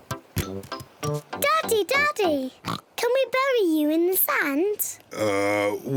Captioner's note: oinks